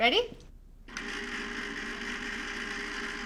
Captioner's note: ice cream machine whirring